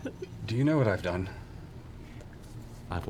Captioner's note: takes deep breaths